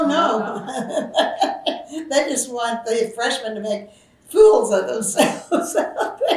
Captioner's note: laughs; laughs